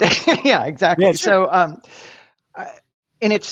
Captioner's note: laughs